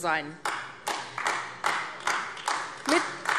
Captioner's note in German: Beifall AfD